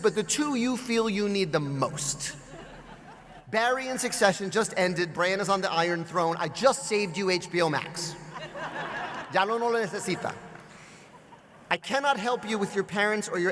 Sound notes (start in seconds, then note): 9.4 speaks Spanish